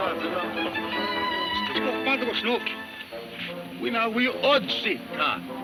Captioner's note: speaking in foreign language